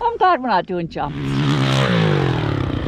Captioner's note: engine roaring